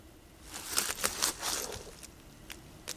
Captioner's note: rustles